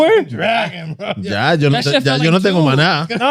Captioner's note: speaking In German